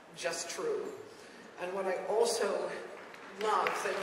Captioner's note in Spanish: aplausos